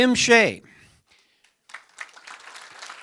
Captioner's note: applause